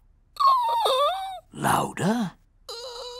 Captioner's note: squeaks; squeaks